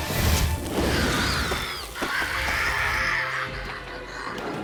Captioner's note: flare bursts; creature cries